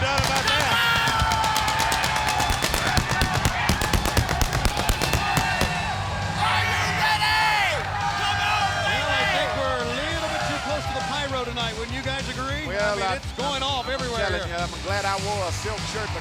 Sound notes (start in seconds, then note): 1.6 fireworks booming; 1.6 lively music; 8.3 crowd cheering